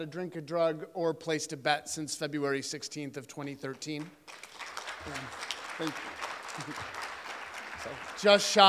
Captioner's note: applause